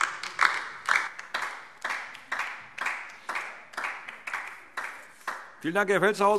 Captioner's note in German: Beifall DIE LINKE